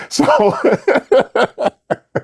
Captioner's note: laughing